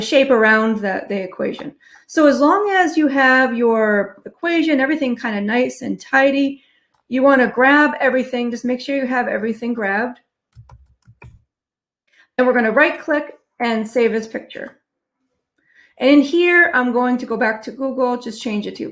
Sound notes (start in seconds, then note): 10.5 keyboard clicking